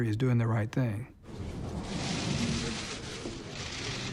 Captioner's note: cameras clicking